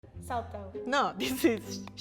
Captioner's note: speaks in foreign language; laughs